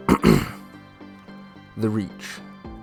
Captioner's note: clears Throat